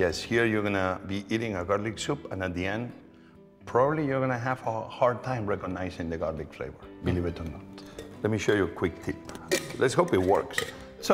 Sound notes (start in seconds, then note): none